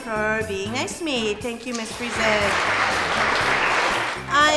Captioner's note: applause